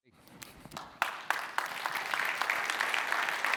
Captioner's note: applause